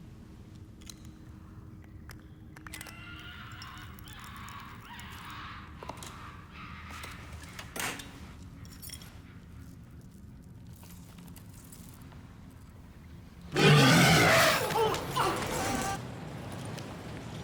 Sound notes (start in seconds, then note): 3.1 wild animals squawks; 13.5 roars